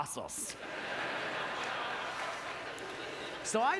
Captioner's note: audience laughter